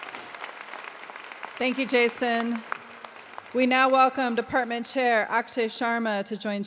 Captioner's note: applause